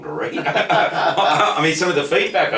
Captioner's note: laugh lightly